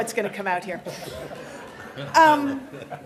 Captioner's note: laughter